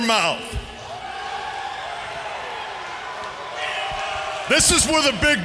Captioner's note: crowd cheering